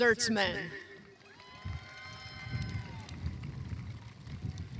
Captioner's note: cheering